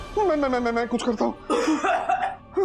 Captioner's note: coughs